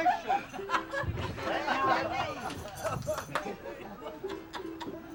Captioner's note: laughing and talking